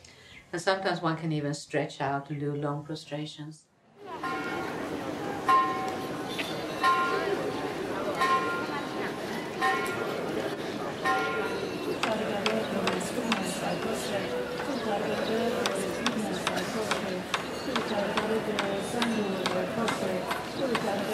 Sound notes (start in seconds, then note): 4.1 bell clanging; 12.0 people reciting and prostrating